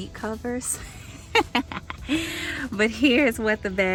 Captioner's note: laughs